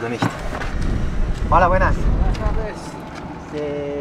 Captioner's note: in Spanish